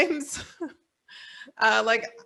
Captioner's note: chuckles